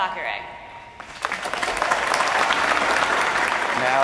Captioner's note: applause